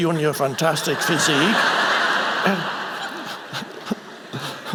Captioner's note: audience laughing